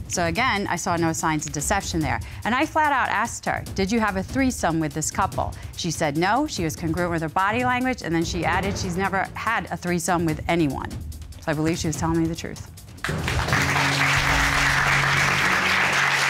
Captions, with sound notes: So, again, I saw no signs of deception there. And I flat out asked her, "Did you have a threesome with this couple?" She said no. She was congruent with her body language. And then she added she's never had a threesome with anyone. I believe she was telling me the truth. [applause]